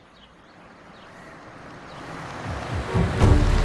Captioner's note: vehicle approaching